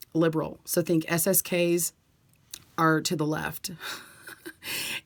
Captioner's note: laughs